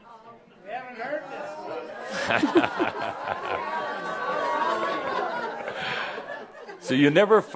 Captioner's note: laughter